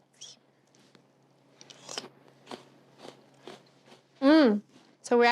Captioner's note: crunching